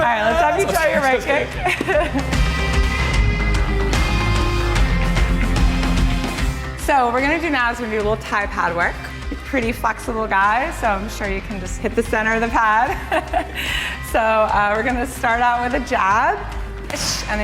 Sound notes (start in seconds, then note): 2.7 confident, rhythmic rock music; 12.9 laughs